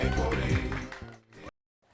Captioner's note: applause